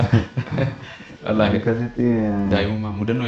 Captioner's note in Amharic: ሳቅ